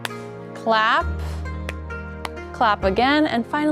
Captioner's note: claps hands; claps hands